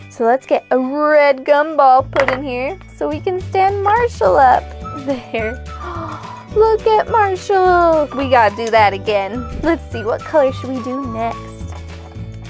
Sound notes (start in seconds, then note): 5.7 gasps